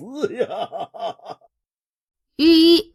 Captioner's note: laughter